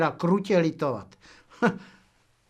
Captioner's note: smích; laughs